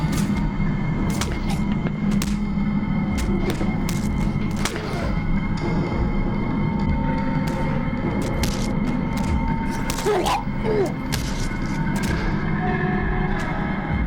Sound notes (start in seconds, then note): 0.2 ominous music; 3.2 grunts; 5.8 blood splatters; 5.8 grunts